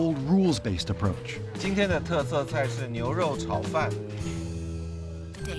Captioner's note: speaking Chinese